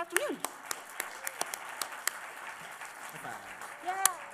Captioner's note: applause